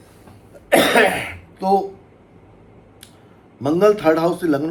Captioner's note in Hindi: खांसने की आवाज़; गला साफ़ करने की आवाज़